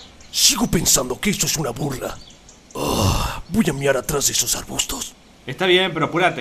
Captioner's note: sigh